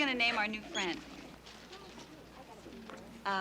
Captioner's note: indistinct chatter